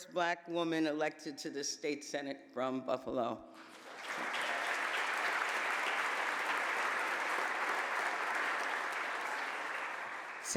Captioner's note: applause